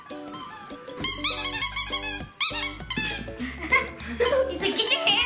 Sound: toy squeaks

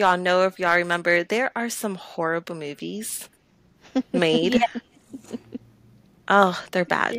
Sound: laughter

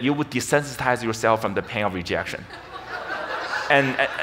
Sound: audience laughs

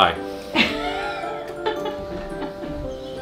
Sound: woman laughs

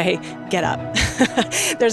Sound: laugh

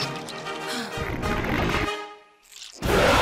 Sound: sighs; roars

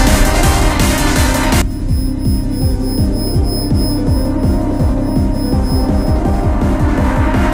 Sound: high-pitched ringing

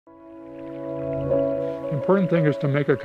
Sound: water trickling

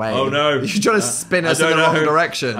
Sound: laughs

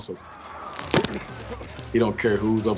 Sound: ball thumping

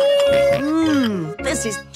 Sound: snorts

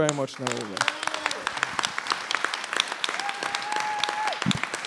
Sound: applause

